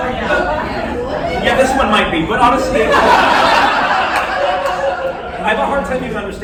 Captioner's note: laughter